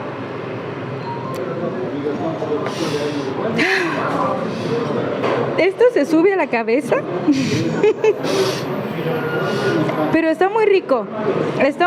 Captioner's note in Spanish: suspirando